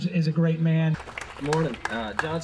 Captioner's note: applause